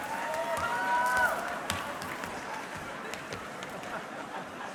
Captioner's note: audience cheering